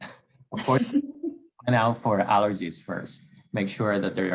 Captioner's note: cough